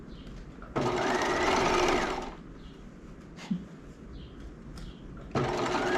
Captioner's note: sewing machine whirling